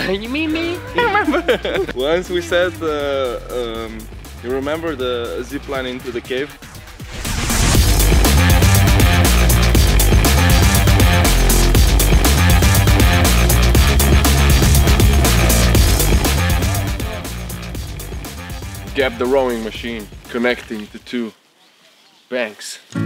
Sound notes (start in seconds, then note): 0.7 laughter; 7.1 rock music